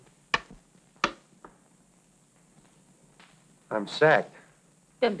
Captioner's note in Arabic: النقر على جهاز الاتصال الداخلي